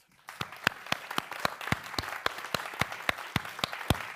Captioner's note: audience applauding